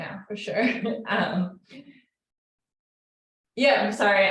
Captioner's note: chuckles